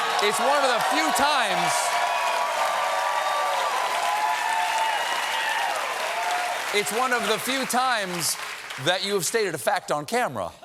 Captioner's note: cheers and applause